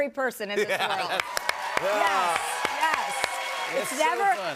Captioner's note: cheers and applause